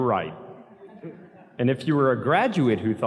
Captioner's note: audience laughs softly